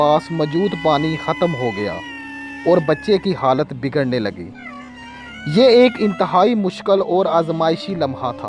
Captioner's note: screaming